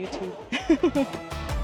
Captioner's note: laughs